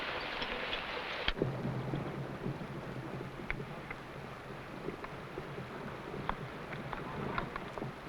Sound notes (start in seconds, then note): 2.7 horse hooves pattering